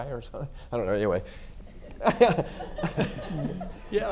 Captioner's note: laughs